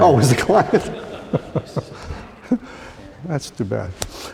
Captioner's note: laughter